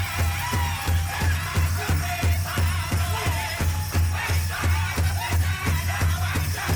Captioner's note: people cheering